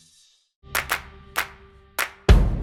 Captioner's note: hands clapping; drum thudding